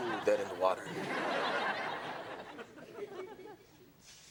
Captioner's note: audience laughs